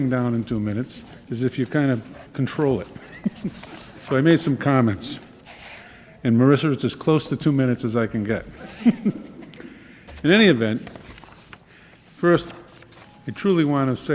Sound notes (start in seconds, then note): 8.5 laughing